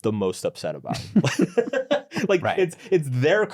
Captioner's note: both chuckles